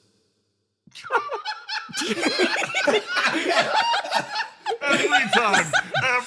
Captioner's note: laughs